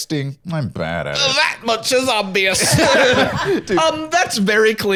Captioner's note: all laughing